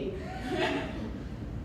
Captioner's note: laughter